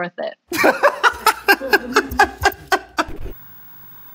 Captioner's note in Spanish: risas